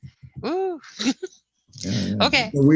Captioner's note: sighing